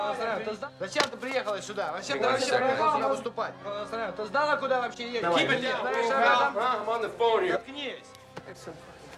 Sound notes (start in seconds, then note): 1.2 speaking russian; 4.3 speaking loudly